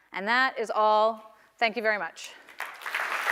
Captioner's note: applause